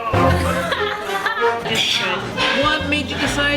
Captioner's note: intense music; laughing